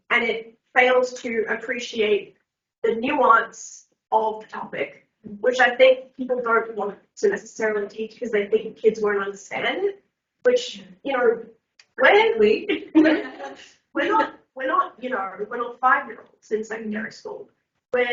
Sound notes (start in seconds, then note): 12.2 mumbling; 12.8 everyone laughs